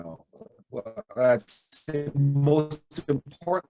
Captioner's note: audio glitching